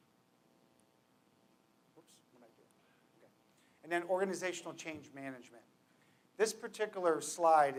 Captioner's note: low voice